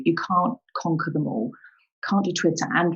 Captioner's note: none